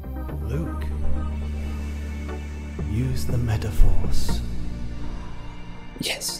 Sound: airy voice: Luc, use the MetaPhorce

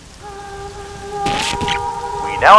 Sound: radio startup

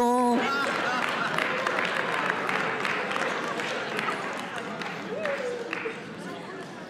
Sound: congregation laughing and applauding

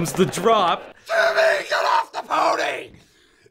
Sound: screeches

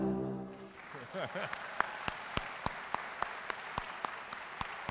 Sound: audience applauding

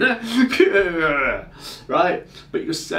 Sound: growls

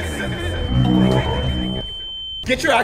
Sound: deafening high-pitched noise

